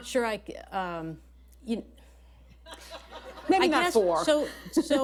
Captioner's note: laughter